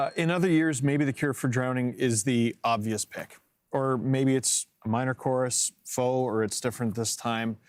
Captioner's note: bell rings